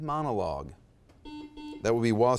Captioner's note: buzzer beeps